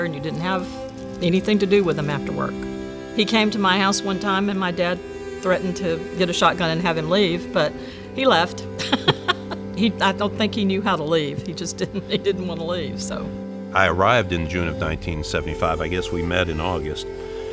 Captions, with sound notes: and you didn't have anything to do with 'em after work. He came to my house one time and my dad threatened to get a shotgun and have him leave, but he left. (laughs) I don't think he knew how to leave. He just didn't, he didn't wanna leave, so. - I arrived in June of 1975, I guess we met in August,